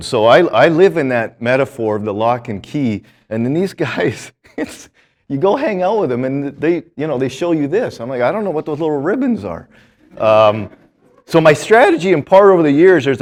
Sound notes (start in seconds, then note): 4.2 chuckles; 9.9 students laughing